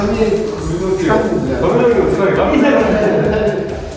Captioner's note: laughs